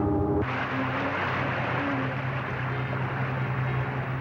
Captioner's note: splashing